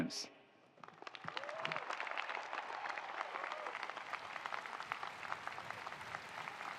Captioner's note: attendees applauding; attendees cheering